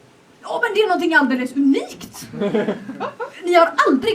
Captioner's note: laughter